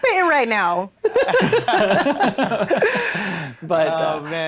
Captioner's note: everyone laughs